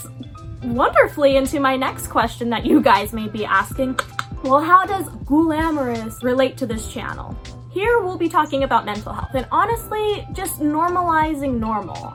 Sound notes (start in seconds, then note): 4.0 tongue click x2